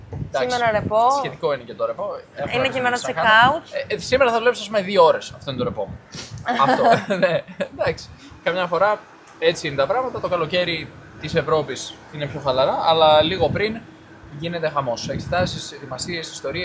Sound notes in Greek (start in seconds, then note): 6.4 γέλια; 6.4 χαχανίζει